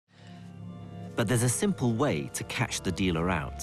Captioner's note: voiceover